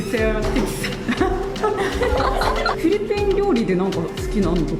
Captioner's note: laughs